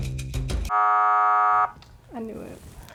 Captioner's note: buzzer rings